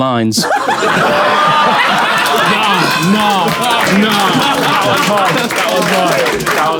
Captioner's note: people in room laughing and exclaiming